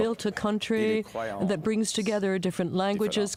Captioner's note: speaking French